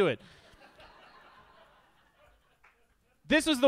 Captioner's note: audience laughs